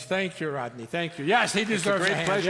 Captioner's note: audience applauds